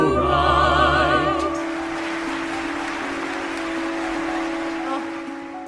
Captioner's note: audience applauds